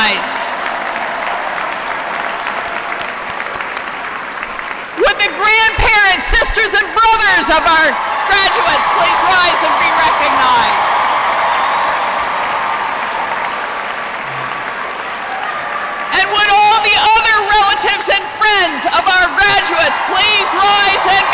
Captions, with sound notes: (Applause) Would the grandparents, sisters and brothers of our graduates please rise and be recognized. (Applause) And would all the other relatives and friends of our graduates, please rise and be recognized?